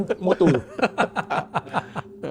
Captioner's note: laugh